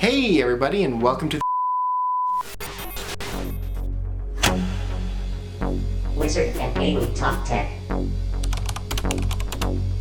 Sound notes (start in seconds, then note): 2.3 glitching sounds; 3.5 uplifting music